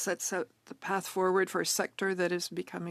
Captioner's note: speaking French